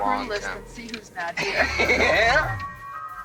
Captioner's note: laughing; eerie music